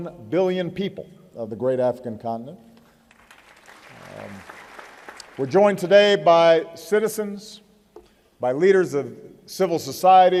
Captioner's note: applause